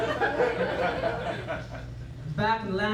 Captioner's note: laughter